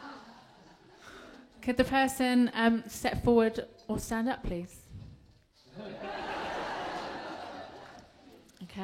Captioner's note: laughter; laughter